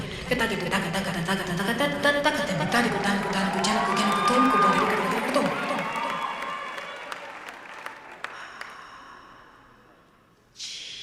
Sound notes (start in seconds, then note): 2.3 audience cheering